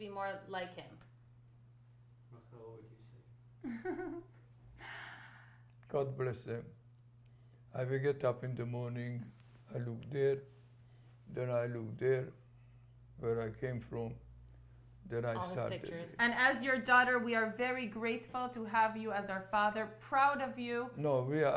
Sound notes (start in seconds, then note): 3.6 laughs